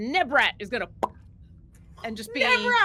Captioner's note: popping mouth